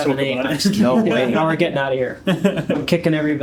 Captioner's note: laughter